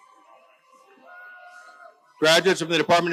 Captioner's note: audience cheers continue